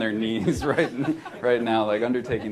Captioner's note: laughter